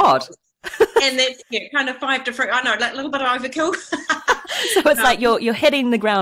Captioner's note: laughs